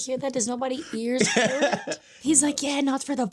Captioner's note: laughing